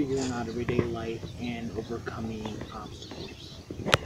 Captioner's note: slight shuffle of foot steps